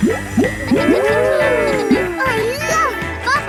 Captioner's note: kids gasping and laughing